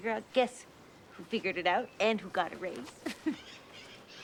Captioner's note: chuckles